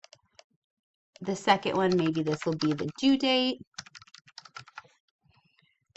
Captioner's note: typing